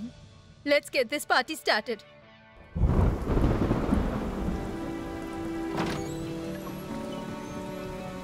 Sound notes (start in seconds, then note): 2.7 thundering; 5.3 door opens